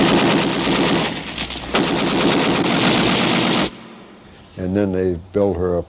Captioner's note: machine guns firing